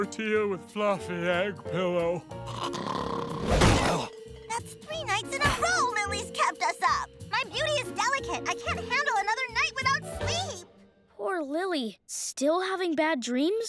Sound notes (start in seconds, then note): 1.9 thudding; 2.4 snoring